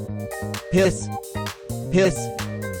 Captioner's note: as snake, deep voice